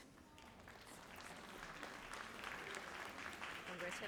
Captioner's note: audience applauds